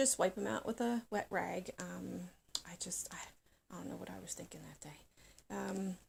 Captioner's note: whispers